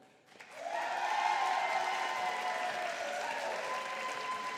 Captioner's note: audience applauding